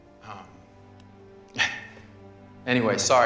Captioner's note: chuckles